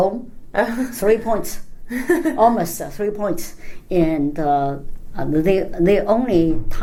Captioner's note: laughs